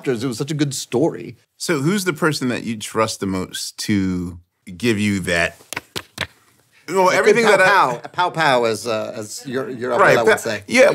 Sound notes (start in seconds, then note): 5.5 hands clapping